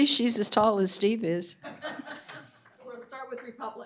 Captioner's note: laughter